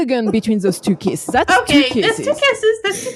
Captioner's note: incoherent, feral rambling